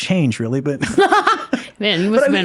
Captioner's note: laughing